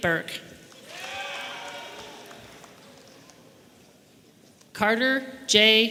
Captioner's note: audience members cheering